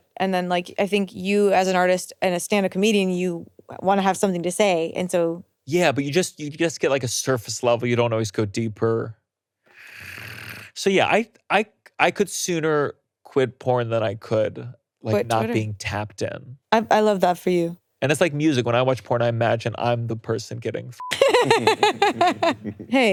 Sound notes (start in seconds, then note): 9.7 sucks in air; 21.0 beeps; 21.1 laughing